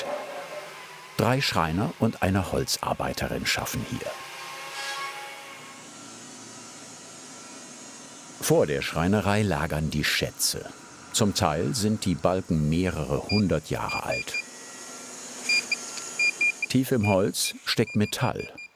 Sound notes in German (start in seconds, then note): 15.4 Piepstöne, Surren